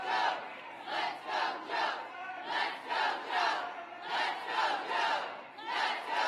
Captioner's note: applause